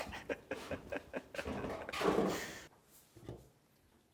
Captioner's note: laughs